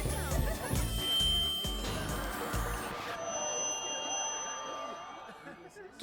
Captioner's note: tap tap tap; feedback